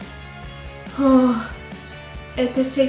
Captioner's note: nervous exhale